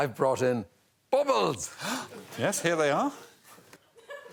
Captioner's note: gasps